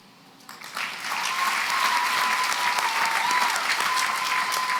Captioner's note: applause